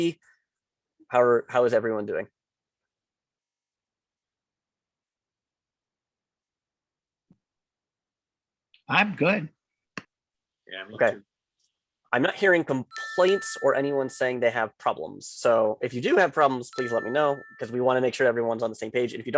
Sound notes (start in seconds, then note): 8.9 bold Voice; 10.9 tender Voice